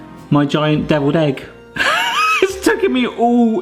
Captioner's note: laughs